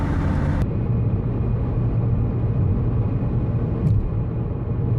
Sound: car accelerating

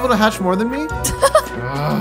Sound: giggling

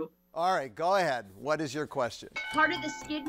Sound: bell dinging

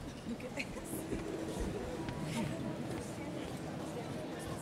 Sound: indistinct chatter

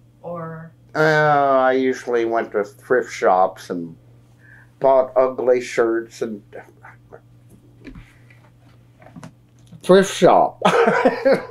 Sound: laughs

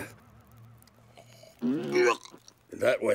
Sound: gagging

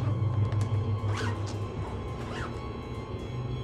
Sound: zips luggage

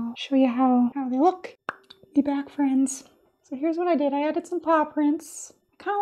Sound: pop!

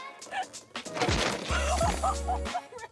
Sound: fence cracking; people laughing

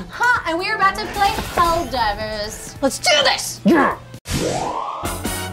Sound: none

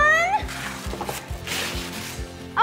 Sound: tearing paper

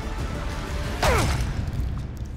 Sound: grunt

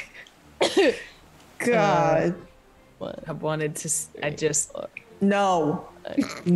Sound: cough

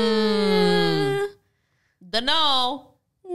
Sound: groaning together

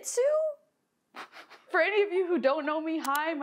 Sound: chuckles

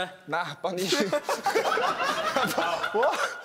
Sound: laughing

